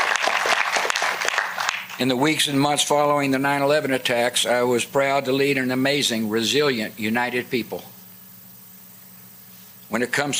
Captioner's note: applause